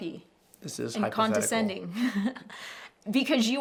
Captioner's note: laughing